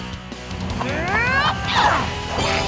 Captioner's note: grunting